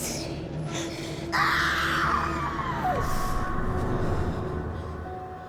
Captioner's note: Dorothy screaming; pensive music